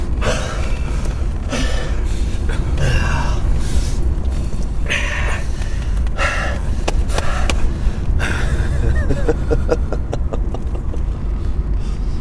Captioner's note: laughing